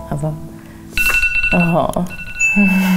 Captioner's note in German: Timer klingelt; Stöhnen, Lachen